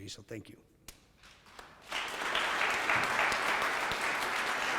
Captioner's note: audience clapping